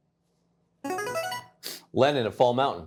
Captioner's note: buzzer chimes